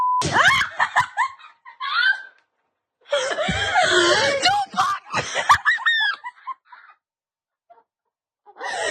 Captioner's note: laugh